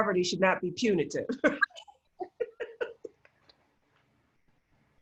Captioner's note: laughs